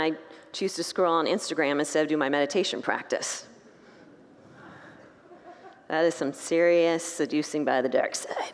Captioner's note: congregants laugh